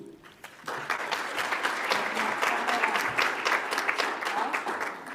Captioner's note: audience applauds